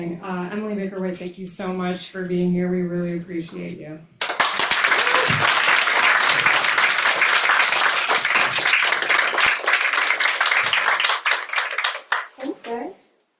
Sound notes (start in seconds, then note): 4.2 crowd members clapping